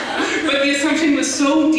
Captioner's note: laughter